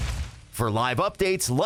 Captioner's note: whoosh